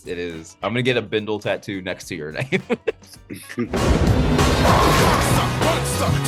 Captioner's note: laughs